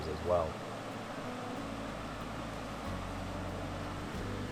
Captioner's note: water crashing